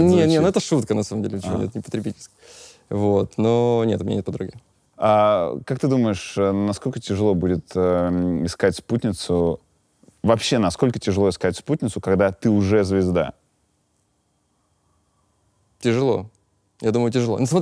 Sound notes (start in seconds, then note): none